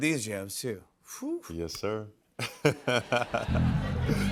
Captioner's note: laughs